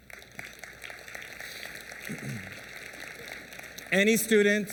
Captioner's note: applause